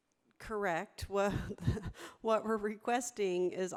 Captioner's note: laughs